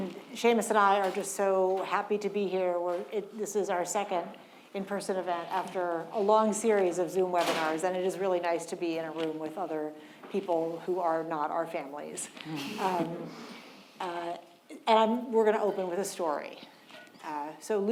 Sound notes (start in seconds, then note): 7.4 door slamming; 12.8 audience chuckling